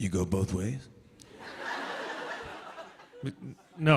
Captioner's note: light laughter